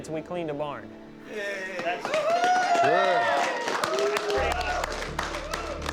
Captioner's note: cheering